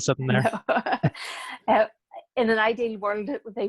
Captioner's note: laughing